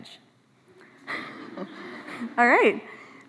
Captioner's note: laughs